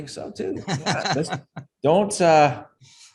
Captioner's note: chuckles